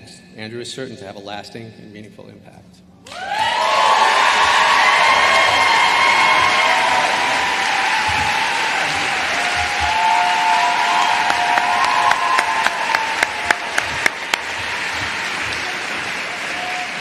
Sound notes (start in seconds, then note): 3.1 applause